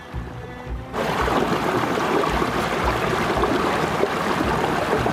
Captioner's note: water sloshing